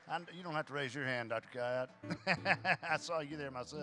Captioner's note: chuckles